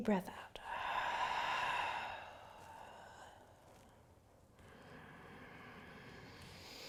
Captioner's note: exhaling and inhaling